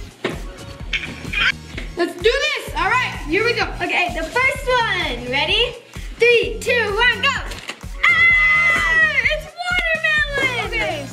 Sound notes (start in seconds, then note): 8.0 excited yelling